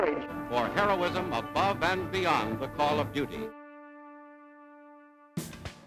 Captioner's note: voiceover